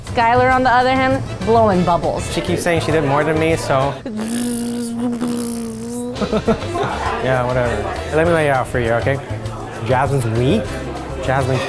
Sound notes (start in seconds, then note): 4.0 blowing bubbles noises; 6.4 laughs